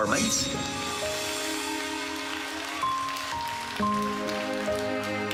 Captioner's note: audience applauding